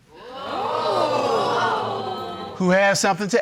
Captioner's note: courtroom exclaiming